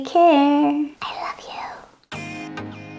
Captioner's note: whispered under breath